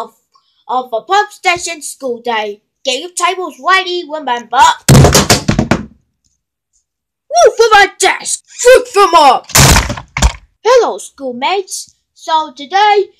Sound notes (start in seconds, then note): 4.9 bang!; 9.5 poownch!